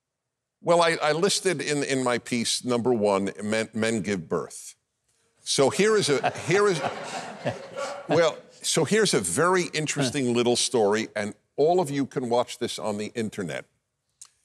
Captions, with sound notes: - Well, I listed in my piece, number one, men give birth. So here is a, here is-- (audience laughing) So here's a very interesting little story and all of you can watch this on the internet.